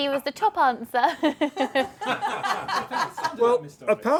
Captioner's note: laughter